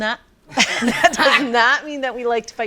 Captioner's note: all laughing